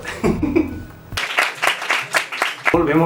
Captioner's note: applause